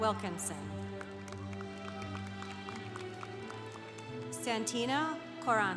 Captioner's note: congregation applauding